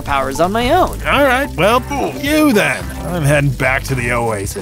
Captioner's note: kooky sound effect